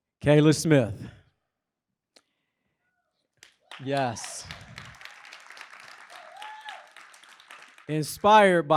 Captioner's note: applause